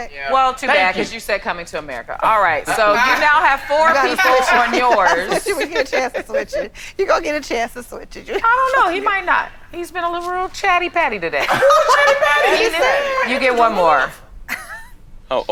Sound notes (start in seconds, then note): 11.0 all laughing